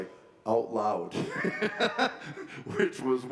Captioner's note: laughing